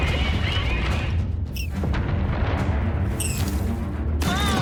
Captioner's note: squealing